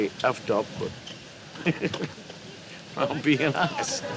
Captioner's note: laughs